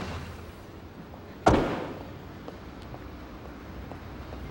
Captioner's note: car door slams